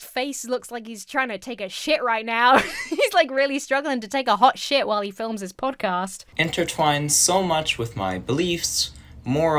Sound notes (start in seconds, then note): 2.4 laughs